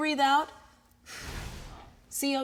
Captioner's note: blows